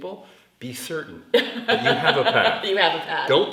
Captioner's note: laughs